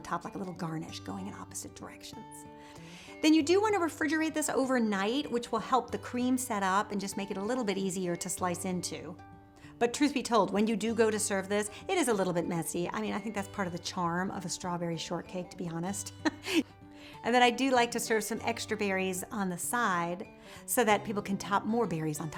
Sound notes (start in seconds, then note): 16.2 laughs